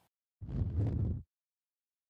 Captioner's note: silence; whoosh; silence